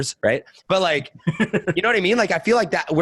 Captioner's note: laughing